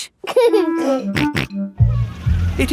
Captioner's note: giggling and snorting